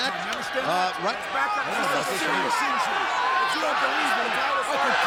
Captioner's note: wrestlers chattering